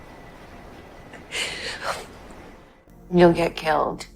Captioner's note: Serena cries